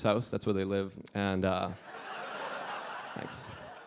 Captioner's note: audience laughing